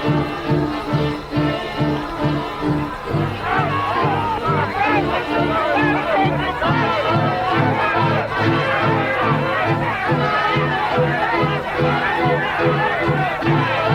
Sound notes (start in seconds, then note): 3.6 group yelling